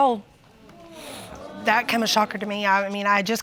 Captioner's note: audience exclaims